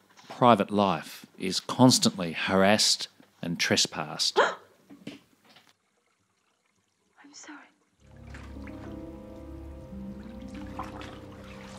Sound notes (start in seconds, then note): 4.4 startled yelp; 10.2 water splashing